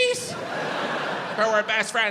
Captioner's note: audience laughs